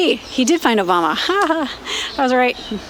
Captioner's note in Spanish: risas